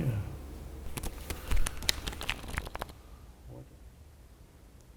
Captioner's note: cards flipping